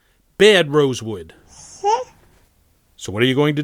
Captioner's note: baby gibberish